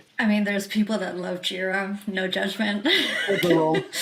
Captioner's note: chuckles